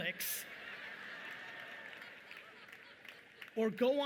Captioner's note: audience laughing